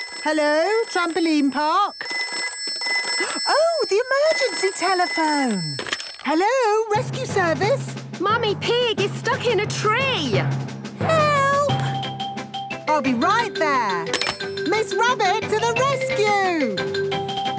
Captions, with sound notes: - Hello, Trampoline Park. (phone ringing) Oh, the emergency telephone! Hello, Rescue Service. - Mummy Pig is stuck in a tree. - Help! - I'll be right there. Miss Rabbit to the Rescue!